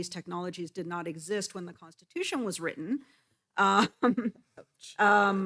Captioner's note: laughs